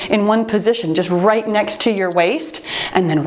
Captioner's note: timer beeps